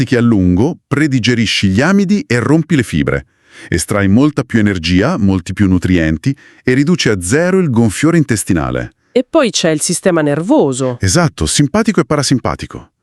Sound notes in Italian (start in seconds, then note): 3.4 sbuffare